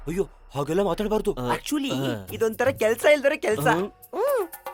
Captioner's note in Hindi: अंग्रेजी